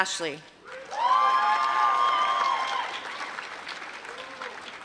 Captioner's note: applause